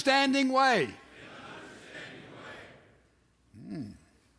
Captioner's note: men repeat